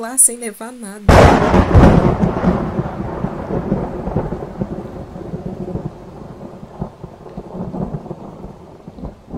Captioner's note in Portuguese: Um forte trovão rompe o céu e a chuva cessa